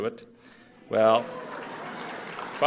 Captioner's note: applause